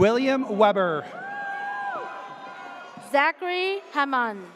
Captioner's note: audience cheers